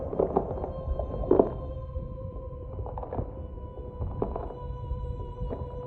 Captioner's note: exaggerated eating sounds